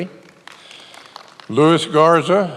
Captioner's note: many applauding